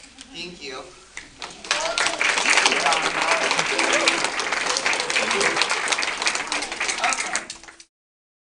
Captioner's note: applause